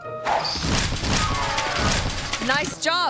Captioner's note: body thudding; bike clatters